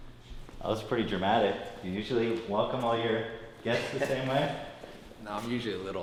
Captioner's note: Tai laughs